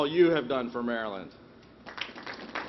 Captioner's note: applause